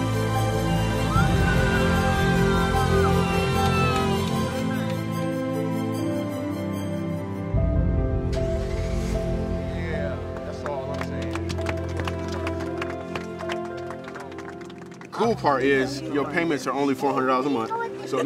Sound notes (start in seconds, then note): 8.7 engine starting; 11.7 applause